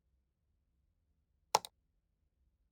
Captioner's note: click sound